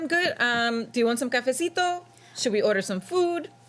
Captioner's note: speaks foreign language